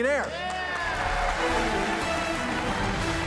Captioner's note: cheers and applause; dramatic music